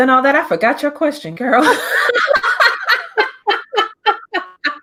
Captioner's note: both laugh